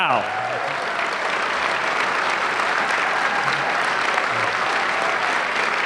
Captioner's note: audience clapping